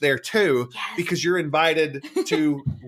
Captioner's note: laughs